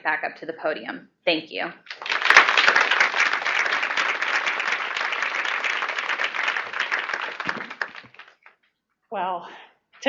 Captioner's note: applause